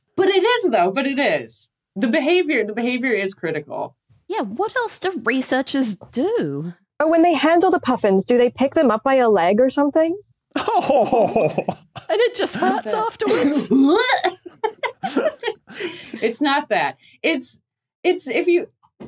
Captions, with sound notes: But it is though, but it is. The behavior is critical. Yeah, what else do researchers do? Oh, when they handle the puffins, do they pick them up by a leg or something? (mournful laugh) And it just hurts afterwards? "Whaaah!" (group laughing) It's not that. It's... If you...